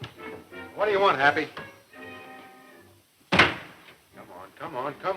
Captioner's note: door closing